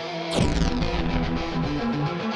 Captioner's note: rising energy charging; energy pulse